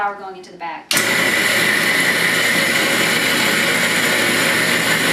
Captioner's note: grinder noises